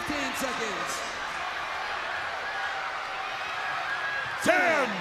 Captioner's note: crowd cheering